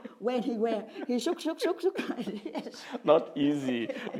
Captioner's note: laughs